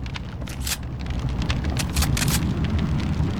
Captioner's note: flames whooshing; gun clicks